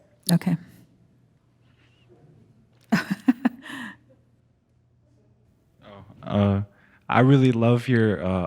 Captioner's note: chuckling